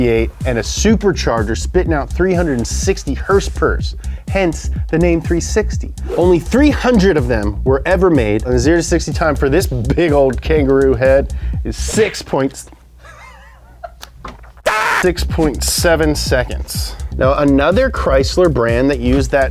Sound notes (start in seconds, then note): 14.6 laughs; 14.6 screams